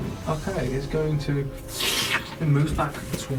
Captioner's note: sucking noise